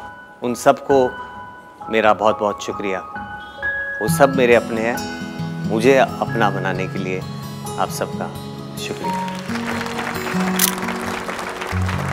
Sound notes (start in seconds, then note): 9.0 Everyone clapping; 10.5 Cameras clicking